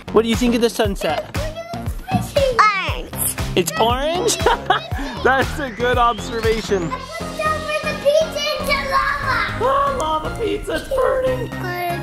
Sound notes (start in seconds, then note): 4.0 man laughing